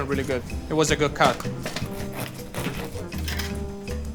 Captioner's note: knife scraping; gentle music